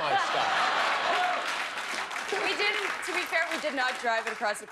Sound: laughter

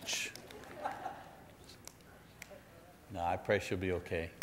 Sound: audience laughs

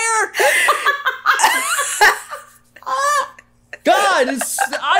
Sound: all laughing

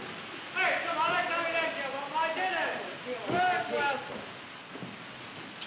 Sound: motivational shouting

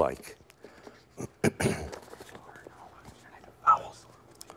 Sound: whispering

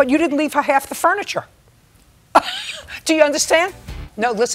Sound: laughs

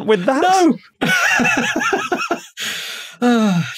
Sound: wheezes

